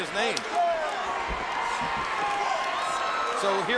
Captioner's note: crowd cheering